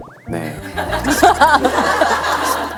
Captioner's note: hahahahahahaha